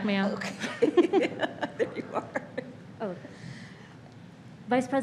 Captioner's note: laughs